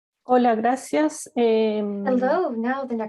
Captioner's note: speaks in Spanish